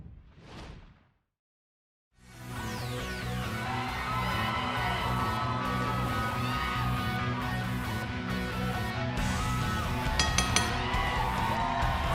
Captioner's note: crowd cheering; bell ringing